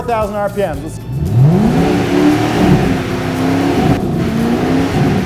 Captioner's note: engine revving